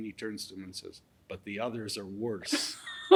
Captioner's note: laughing